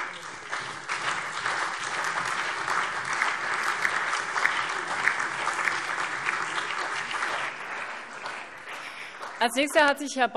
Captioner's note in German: Beifall SPD, CDU, BÜNDNIS 90/DIE GRÜNEN, Freie Demokraten und DIE LINKE